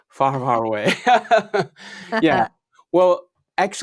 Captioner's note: laughs